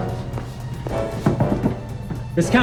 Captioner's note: door knocking